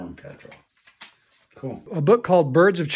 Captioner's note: paper rustling